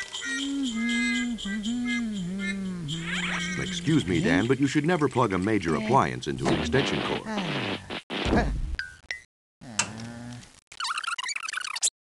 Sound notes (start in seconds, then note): 0.1 humming; 6.4 electricity buzzing; 9.6 groans; 10.7 video squeaking